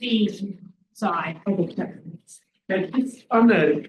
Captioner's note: people chattering indistinctly